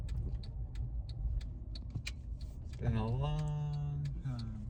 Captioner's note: car whirling; car blinker dinging